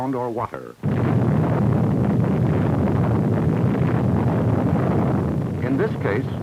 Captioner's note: explosion